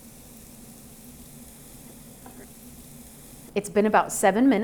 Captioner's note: grilling patties